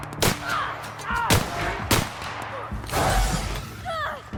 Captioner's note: people grunting